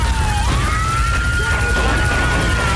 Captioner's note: plane engine roaring